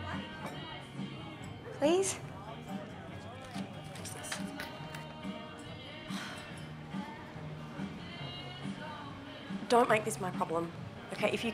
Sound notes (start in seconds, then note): 6.1 sighs